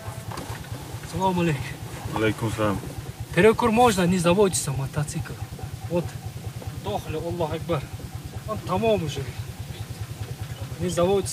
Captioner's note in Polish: rozmowa w innym języku